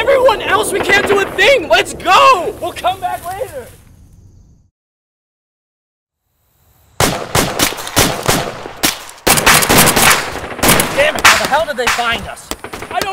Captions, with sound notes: Everyone else?! We can't do a thing! Let's go! We'll come back later! (Gunshots) Dammit! How the hell did they find us?!